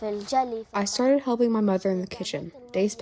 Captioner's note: through translator